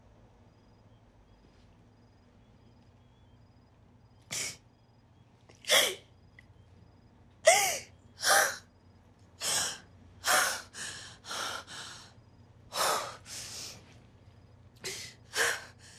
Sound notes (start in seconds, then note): 4.5 she sobs; 10.2 she takes deep breaths